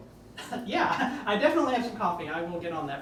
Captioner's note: riendo